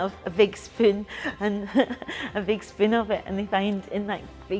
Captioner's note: laughs